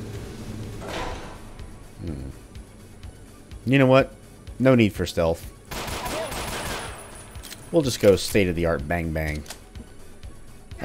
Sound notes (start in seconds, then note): 5.7 Glocking intensifies